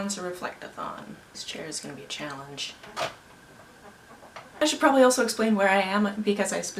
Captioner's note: creaking